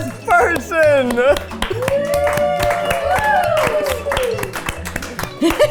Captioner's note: clapping; crew cheering; laughing